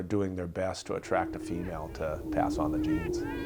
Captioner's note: chickens chirping